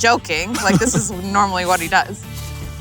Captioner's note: laughs